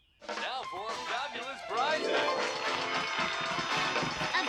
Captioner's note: cheering